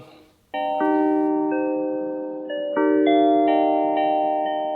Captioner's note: chimes chiming